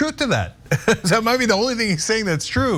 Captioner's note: laugh